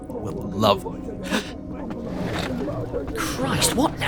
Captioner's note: medics yelling in background